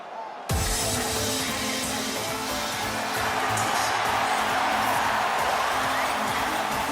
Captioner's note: crowd cheering; upbeat music